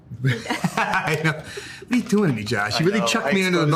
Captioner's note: laughs